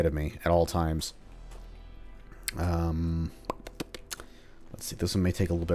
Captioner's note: thinking noises